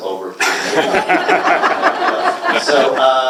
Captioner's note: laughter